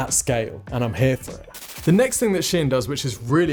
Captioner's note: static fizzles